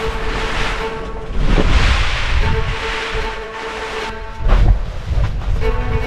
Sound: wind & rain

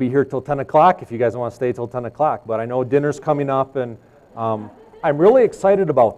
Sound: laughs

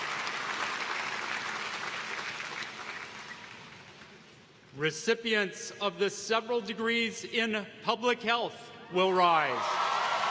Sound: applause

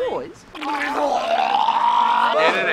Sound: vomiting sounds

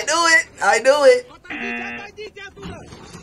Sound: buzzer rings

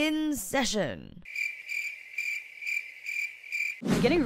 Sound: awkward cricket noise

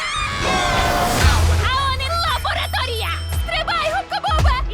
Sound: both screaming; beeping

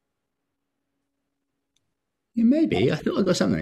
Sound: quiet snapping/ crackling/ popping

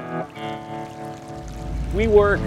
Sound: mellow country music; water rippling

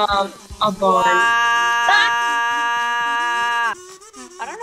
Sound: cuts out in discord

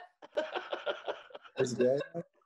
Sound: laughs

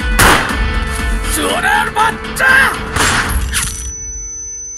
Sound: gunshot

